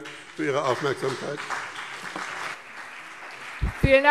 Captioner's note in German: Beifall BÜNDNIS 90/DIE GRÜNEN und CDU